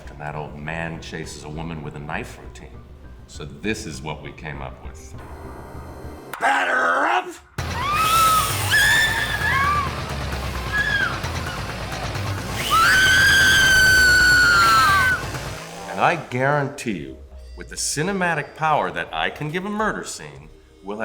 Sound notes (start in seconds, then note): 7.6 women shriek; 12.8 chainsaw grinds